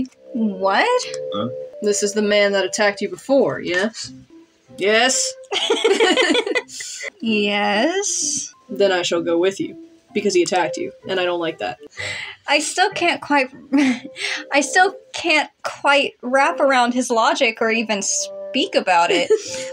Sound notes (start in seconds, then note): 5.5 laugh; 13.6 chuckle; 19.1 giggle